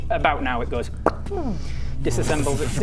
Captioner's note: pop